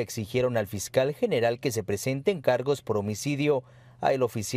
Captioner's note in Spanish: hablan en inglés